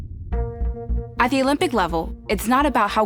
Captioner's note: in English